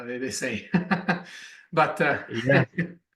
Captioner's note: laughs